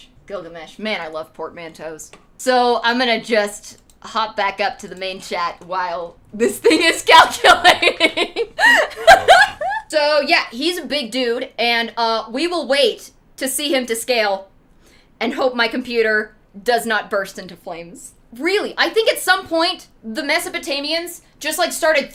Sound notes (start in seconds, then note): 7.4 giggling